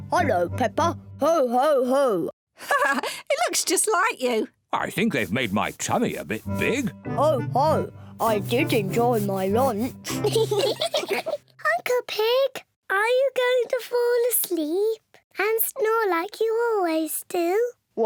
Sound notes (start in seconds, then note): 2.6 laughs; 10.0 all giggle